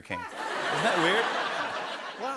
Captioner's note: laughter